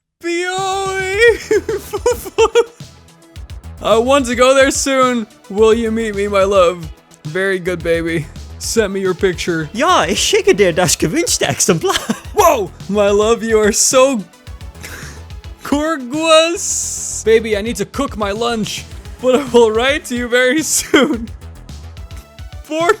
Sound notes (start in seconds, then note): 1.2 laughing; 11.0 laughing; 22.0 laughing